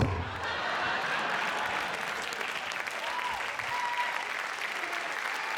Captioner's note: cheers and applause